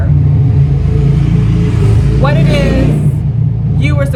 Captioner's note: truck engine revving